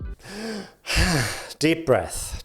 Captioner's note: breathes deeply